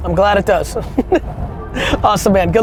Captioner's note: laughs